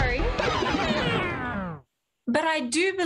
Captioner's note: record Scratch